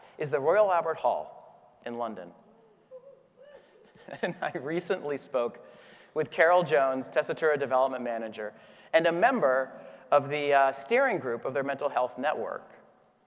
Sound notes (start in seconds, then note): 2.8 laughing